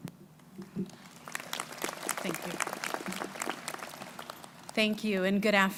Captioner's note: crowd applauding